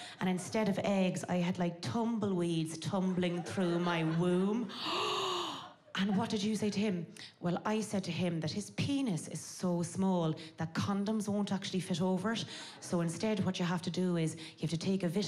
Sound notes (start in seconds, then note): 4.7 gasping